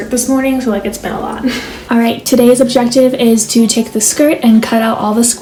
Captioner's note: laughs